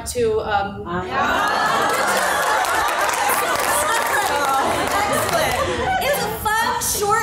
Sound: laughter

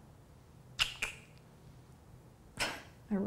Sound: clicking tongue; laughing

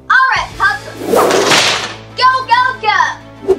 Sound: door slams open

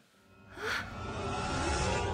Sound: gasp

